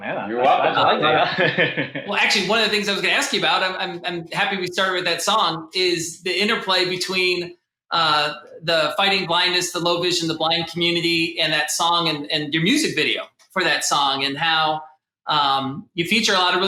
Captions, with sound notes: - Oh man, you're welcome. (laughs) - Well actually, one of the things I was gonna ask you about, I'm happy we started with that song, is the interplay between the fighting blindness, the low vision, the blind community in that song and your music video for that song and how you feature a lot